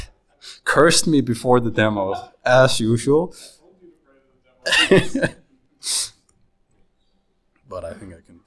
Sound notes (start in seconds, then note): 4.7 laughs